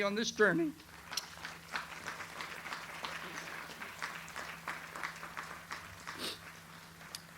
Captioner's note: audience applauds